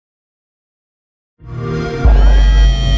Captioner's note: xbox sound